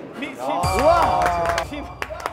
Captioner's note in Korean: 기립 박수